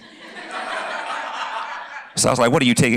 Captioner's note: laughter